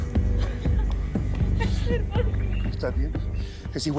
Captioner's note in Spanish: Solloza